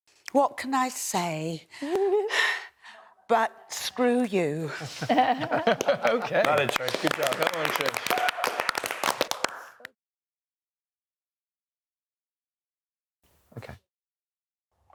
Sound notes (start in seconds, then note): 4.8 chuckles; 5.6 clapping